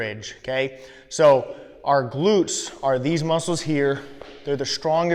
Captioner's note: pats bottom